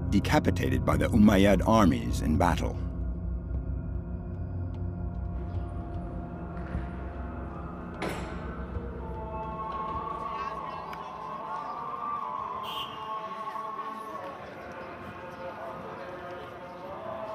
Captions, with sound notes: decapitated by the Umayyad armies in battle. (singing in a foreign language) (car honking)